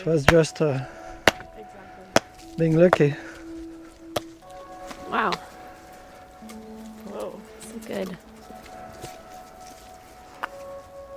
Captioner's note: sound of tool hitting the ground